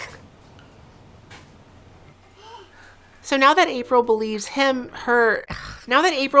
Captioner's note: sound of disgust